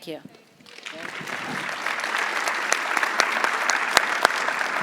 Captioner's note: audience applauding